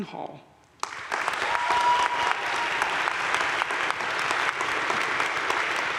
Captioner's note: audience cheering and applauding